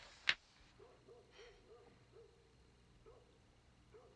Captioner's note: dog barking